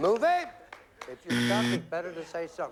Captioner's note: buzzer